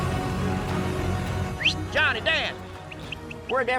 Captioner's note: whistles